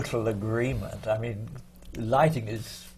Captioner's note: laughs